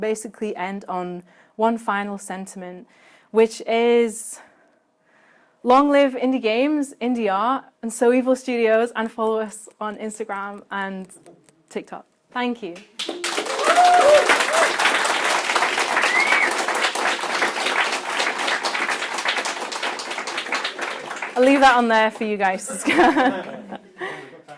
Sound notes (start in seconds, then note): 14.5 applause